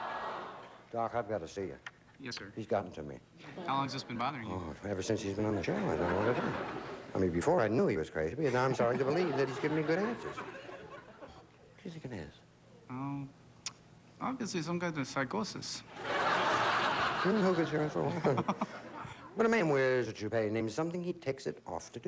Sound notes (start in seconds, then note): 13.0 german accent; 17.8 chuckles